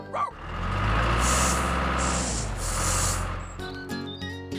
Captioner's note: engine Running